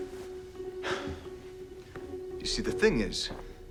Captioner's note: Nicolas sighs